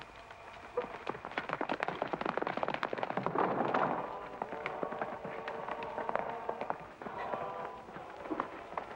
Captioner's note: hooves pounding